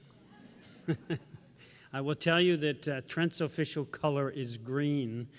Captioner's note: laughs